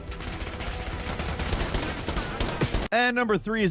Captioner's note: firing continues